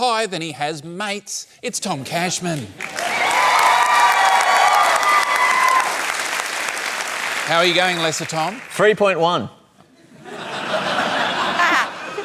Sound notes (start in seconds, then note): 2.8 cheering, applause; 10.0 laughter